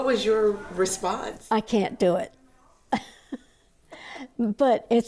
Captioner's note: laughs